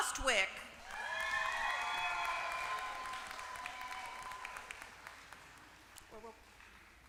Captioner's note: applause